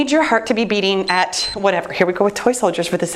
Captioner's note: timer beeps